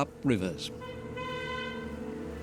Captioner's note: car beeps